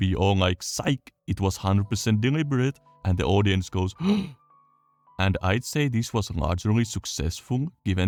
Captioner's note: gasp